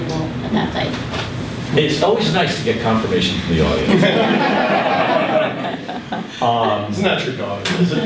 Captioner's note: laughter